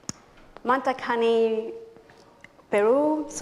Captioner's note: non-english speech